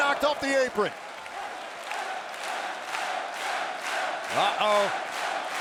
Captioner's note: audience cheering; audience clapping